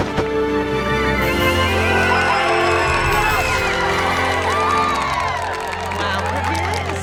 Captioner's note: dramatic music soars; crowd cheering